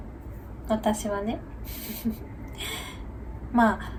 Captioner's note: laughs